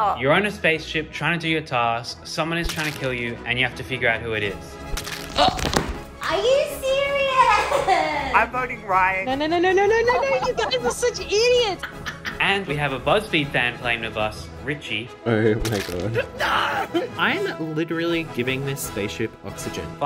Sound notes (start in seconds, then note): 4.9 squelching; 11.8 laughing